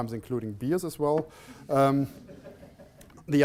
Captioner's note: laughter